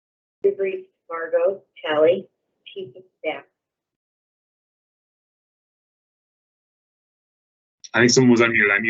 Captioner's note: background talking